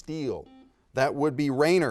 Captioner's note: buzzer dings